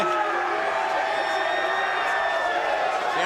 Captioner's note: crowd shouting